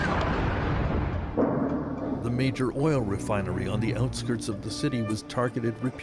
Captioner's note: explosion; speaking Alternate Language